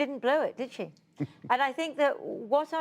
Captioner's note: laughter